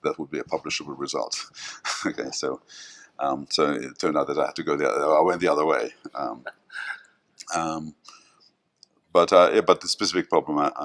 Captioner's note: chuckles